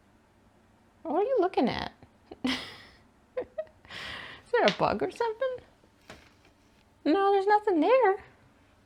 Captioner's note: laughs